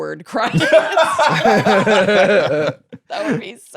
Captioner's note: laughing